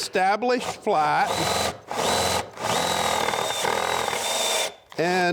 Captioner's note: machine buzzing